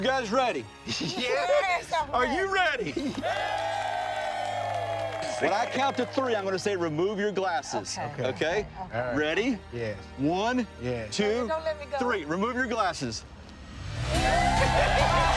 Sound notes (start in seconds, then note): 3.0 crowd cheers; 6.1 crowd cheering and clapping; 11.4 uplifting music